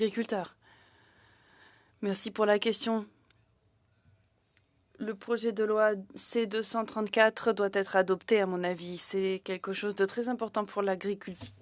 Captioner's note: speaking in French